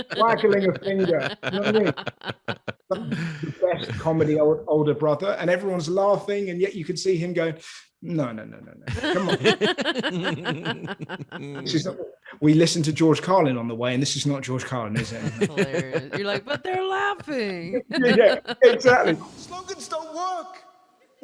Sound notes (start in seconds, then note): 8.9 laughing quickly